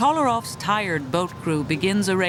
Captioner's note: voiceover